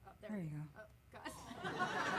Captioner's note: laughter